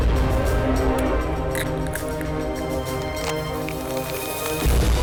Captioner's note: egg cracking